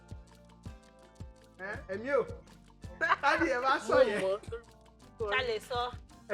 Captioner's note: laughs